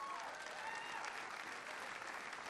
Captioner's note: applause